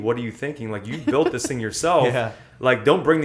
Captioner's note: laughter